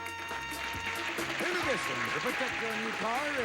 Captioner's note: audience applauding